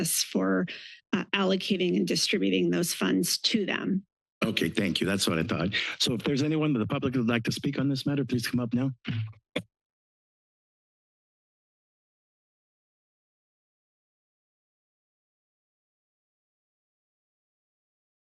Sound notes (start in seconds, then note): 8.8 microphone noise; 10.1 silence